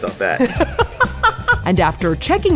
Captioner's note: laughs